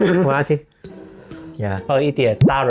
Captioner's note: sipping